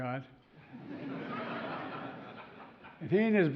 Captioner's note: laughter